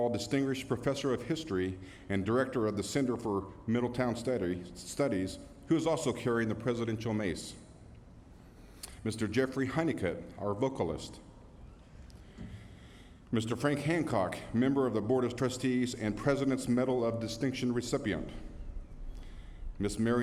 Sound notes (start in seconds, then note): none